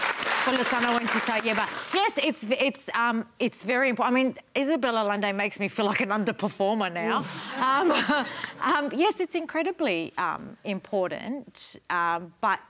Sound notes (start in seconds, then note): 0.0 applause; 7.4 laughter